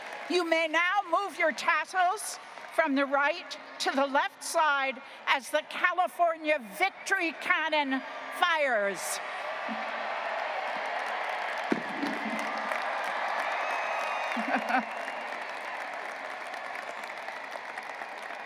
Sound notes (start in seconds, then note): 8.9 graduates applauding and cheering; 11.6 cannon booms; 12.9 graduates applauding and cheering; 14.3 chuckles